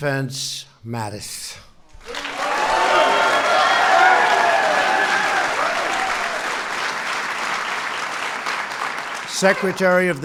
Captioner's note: applause